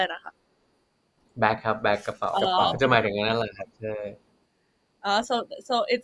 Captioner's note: clarifying in Thai